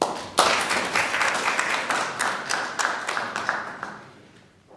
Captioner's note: applause